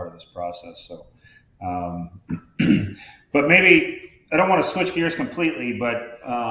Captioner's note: clears throat